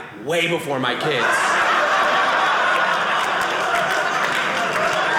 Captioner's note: audience laughing; audience clapping